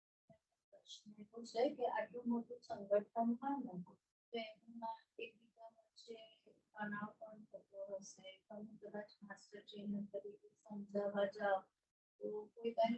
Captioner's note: non-english speech